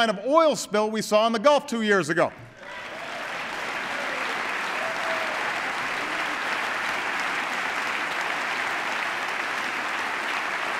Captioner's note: applause